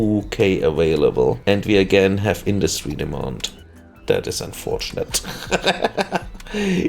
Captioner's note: laughter